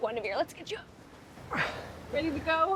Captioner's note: Eric groans